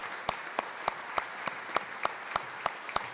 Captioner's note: applause